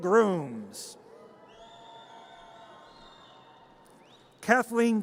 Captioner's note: audience cheers